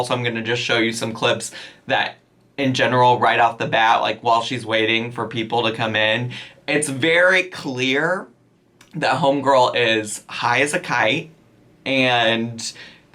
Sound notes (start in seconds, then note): none